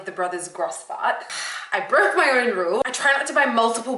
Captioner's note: exhales